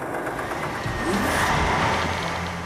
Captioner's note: engines Running